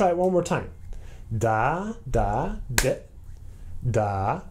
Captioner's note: single clap on dit